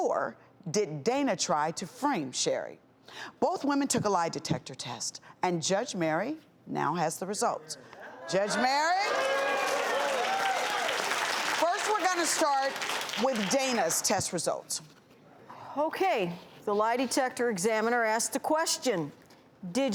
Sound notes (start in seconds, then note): 8.5 audience cheering and clapping; 8.8 audience erupts